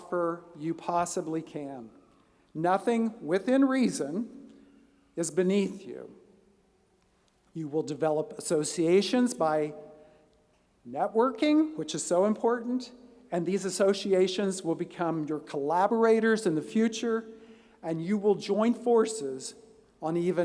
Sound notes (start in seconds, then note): none